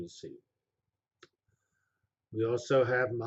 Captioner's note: pause